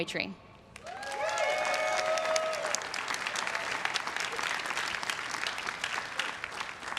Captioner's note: everyone cheering and applauding